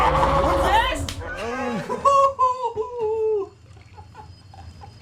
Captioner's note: laughing